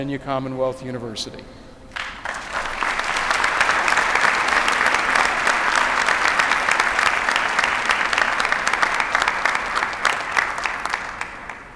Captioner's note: applause